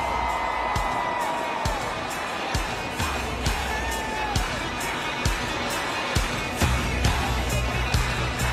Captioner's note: cheers and applause